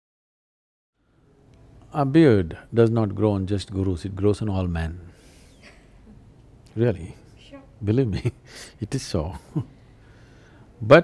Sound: laughs

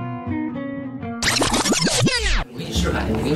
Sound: rewinding

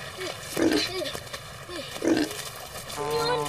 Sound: boar snorting

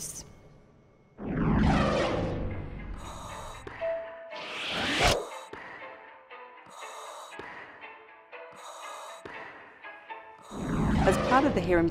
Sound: breathing through face mask

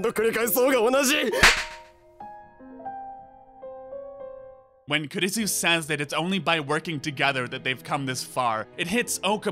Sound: slap

